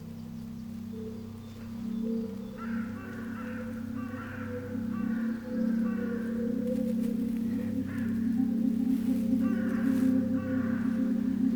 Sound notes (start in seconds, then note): 2.5 birds cawing; 6.6 ominous music